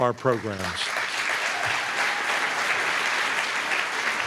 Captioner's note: applause